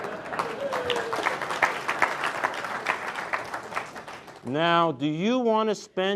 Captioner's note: crowd laughs; crowd claps